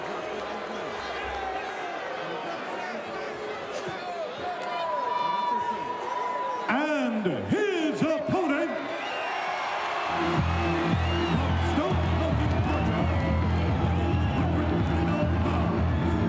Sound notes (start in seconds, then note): 9.6 audience cheering; 10.1 upbeat music; 10.2 music drowns out speaker